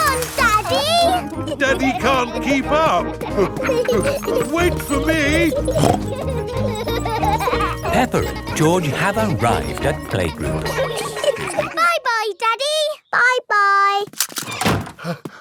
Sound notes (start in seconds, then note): 6.0 snorts; 11.9 snorts